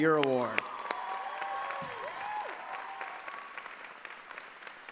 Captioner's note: cheering and applause